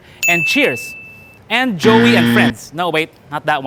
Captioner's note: buzzing sound